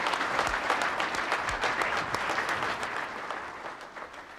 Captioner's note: crowd clapping